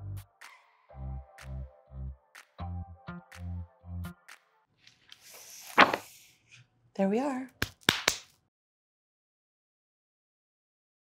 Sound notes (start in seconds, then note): 5.1 book closes; 7.5 claps hands